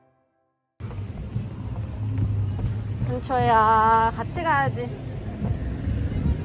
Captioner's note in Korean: 촬영을 끝낸 신난 발걸음